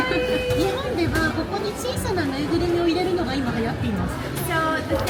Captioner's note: guide speaking Japanese